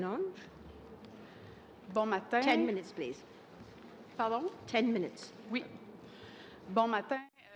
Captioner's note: speaking french